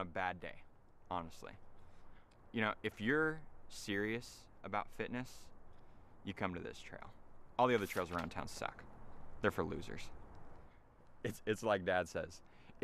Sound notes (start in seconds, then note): 7.6 rustling